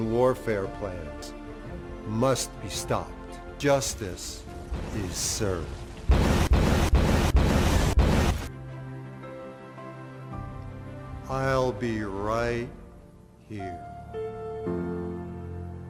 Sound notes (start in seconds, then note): 5.9 explosions booming; 8.4 gentle music